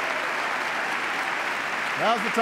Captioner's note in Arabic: تصفيق